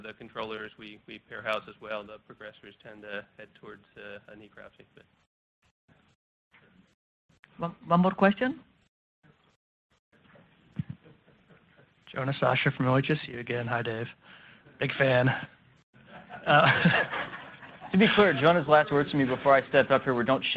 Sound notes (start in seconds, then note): 16.0 laughs; 16.0 attendees laugh